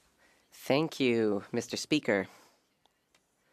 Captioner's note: speaking French